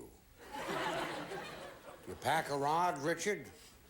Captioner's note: audience laughing